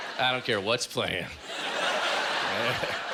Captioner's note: laughter